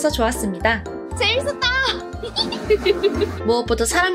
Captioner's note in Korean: 웃음소리